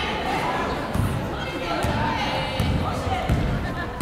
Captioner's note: chattering